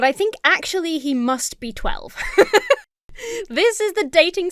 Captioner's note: laughs